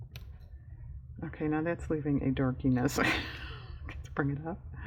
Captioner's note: laughs